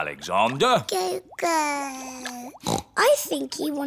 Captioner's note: babbles; snorts